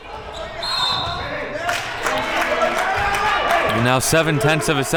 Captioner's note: whistle blows; audience cheers